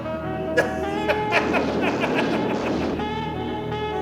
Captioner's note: laughter